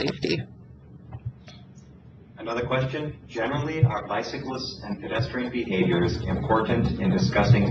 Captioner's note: moderator speaking in background